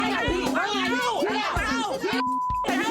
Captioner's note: friends yelling